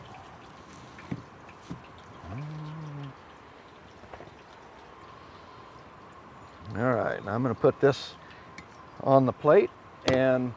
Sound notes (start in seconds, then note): 1.0 wind rustling